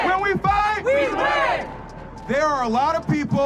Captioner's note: crowd